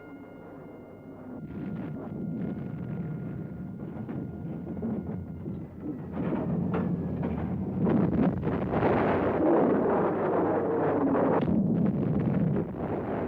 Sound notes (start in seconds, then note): 6.3 explosions; 6.3 plane engines roar